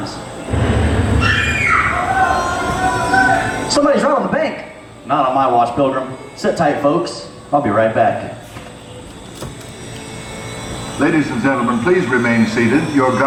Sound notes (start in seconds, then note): 0.8 screams